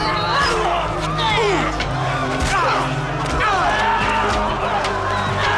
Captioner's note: grunting and punching